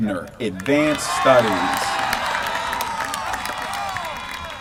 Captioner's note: applause